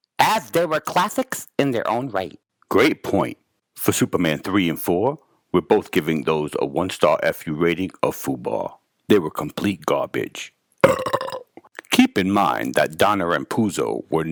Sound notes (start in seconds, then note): 10.8 burping